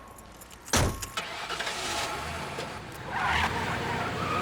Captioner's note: engine starts; tires screeching